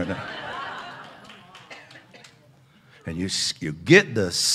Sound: audience laughs

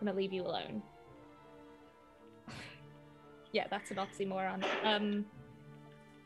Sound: sighs

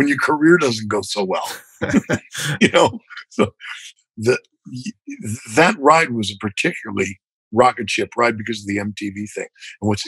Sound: laughter

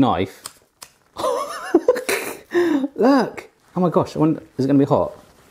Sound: laughs

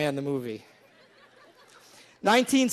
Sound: laughing

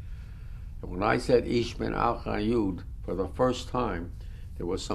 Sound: german

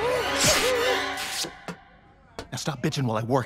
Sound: Fizz whimpers

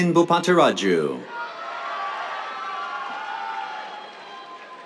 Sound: cheers, applause

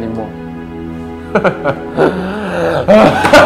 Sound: sad laughing; hysterical laughing

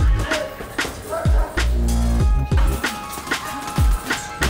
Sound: gloves hitting bag

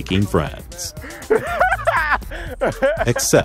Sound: laughing

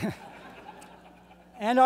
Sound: laughter

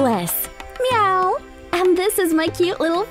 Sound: cat meowing

